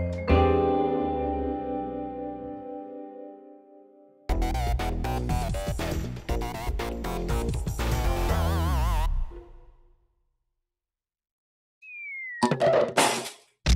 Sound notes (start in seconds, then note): 4.3 electric music plays; 12.4 thuds